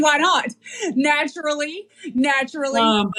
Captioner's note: laugh